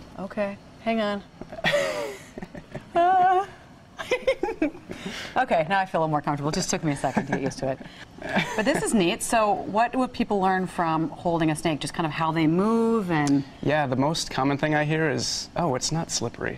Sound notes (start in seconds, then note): 8.2 laughter